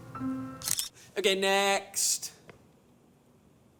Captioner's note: camera shutter clicks